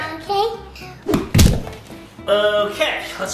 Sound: thuds

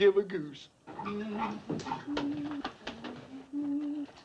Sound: humming

